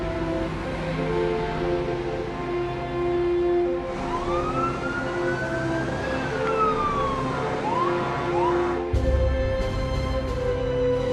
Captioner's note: sirens